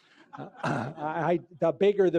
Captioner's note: laughter